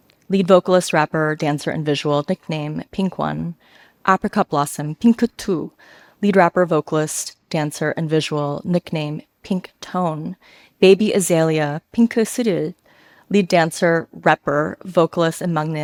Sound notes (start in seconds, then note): 12.1 speaks a foreign language